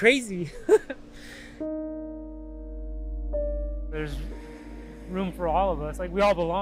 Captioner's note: chuckles